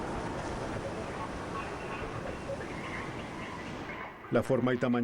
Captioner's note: oleaje